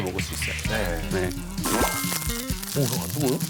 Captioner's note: Tasty sound